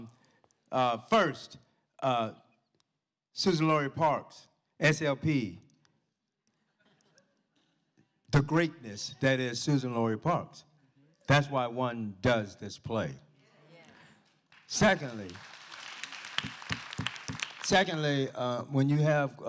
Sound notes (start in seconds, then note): 14.2 applause